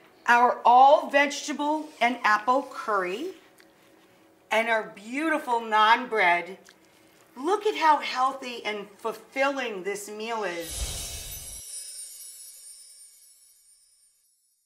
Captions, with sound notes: our all-vegetable and apple curry, and our beautiful naan bread. Look at how healthy and fulfilling this meal is. (chimes tinkling)